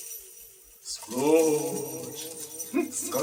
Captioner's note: echoing voice